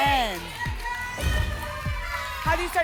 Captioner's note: whoosh; thump